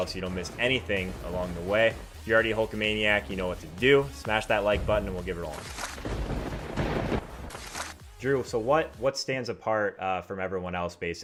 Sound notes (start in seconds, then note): 6.3 lightning strike